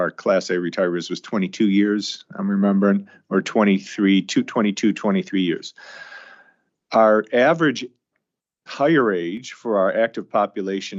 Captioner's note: sighs